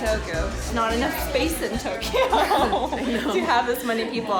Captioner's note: laughs